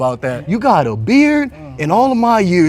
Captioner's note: imitating command